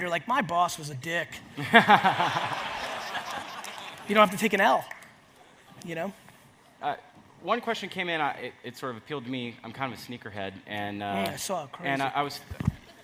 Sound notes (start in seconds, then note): 1.6 audience laughs; 12.8 audience laughs